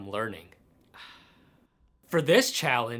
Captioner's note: satisfied sigh